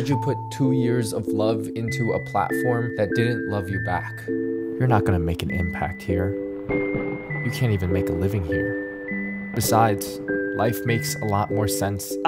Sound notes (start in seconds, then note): 6.4 thunder rumbling